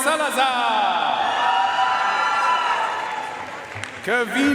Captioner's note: audience cheering and applauding